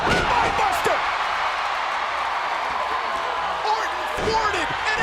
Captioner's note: audience cheering